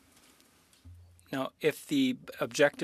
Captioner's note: speaking French